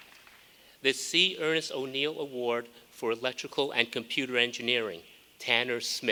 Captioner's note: applause